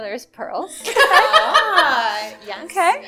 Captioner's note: laughter